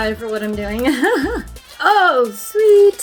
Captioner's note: laughs